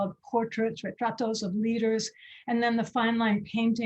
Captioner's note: speaking foreign language